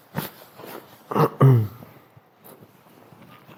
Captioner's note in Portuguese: limpando a garganta